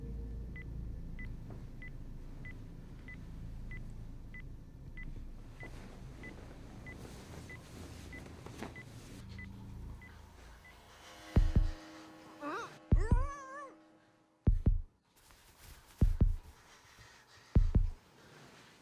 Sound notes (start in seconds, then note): 0.2 alarm beeping; 12.4 Meg grunts; 15.0 suspenseful music